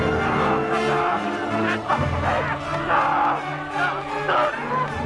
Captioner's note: Nepakin screaming